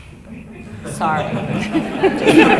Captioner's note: laughter